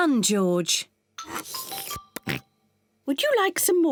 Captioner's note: slurps